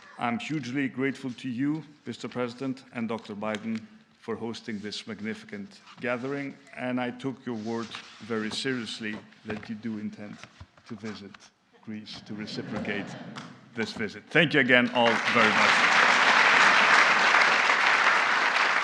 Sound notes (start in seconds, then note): 12.2 laughter